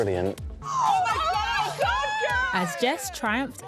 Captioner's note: screaming